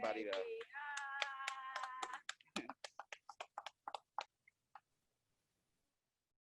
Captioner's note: clapping; cheering